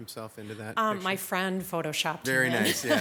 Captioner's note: laughs